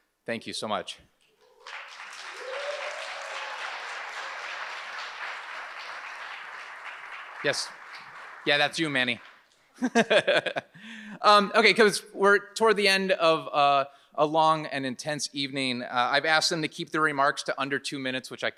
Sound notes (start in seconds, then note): 1.4 audience applauds; 10.8 laughs